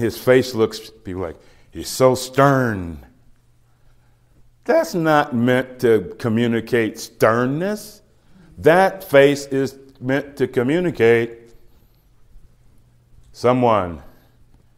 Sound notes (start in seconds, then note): none